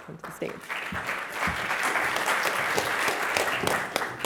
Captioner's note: audience applauds